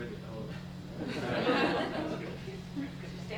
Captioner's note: laughter